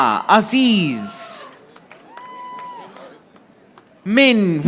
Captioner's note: audience applauding